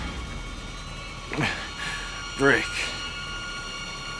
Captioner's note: gasps